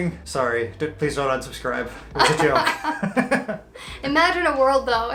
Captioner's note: laughs